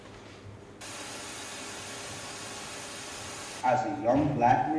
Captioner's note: TV static plays